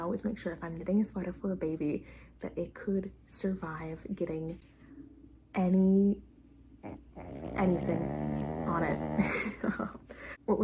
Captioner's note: soul rattling puppy snort; laughs to myself